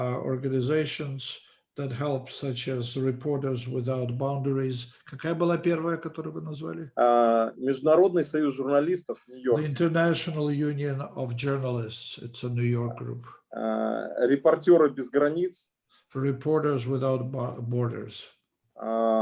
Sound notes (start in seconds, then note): 5.5 translator speaking Russian language; 7.5 speaking Russian language; 14.8 speaking Russian language